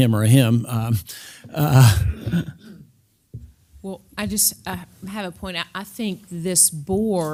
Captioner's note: laugh